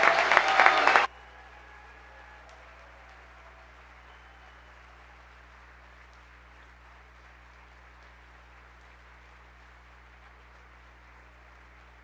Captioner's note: cheers and applause